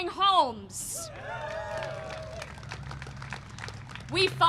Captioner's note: applause and cheering